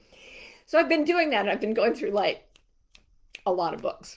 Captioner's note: fingers snapping